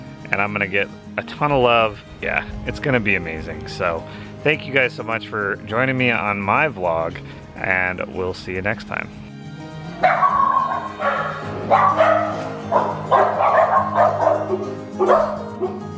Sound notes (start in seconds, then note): 9.9 dogs barking